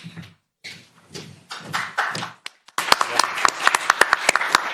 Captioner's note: applause